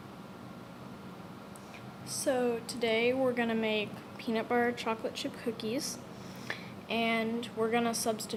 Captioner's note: gross inhale